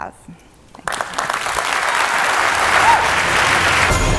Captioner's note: applause